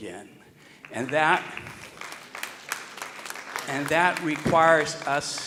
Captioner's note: audience applauding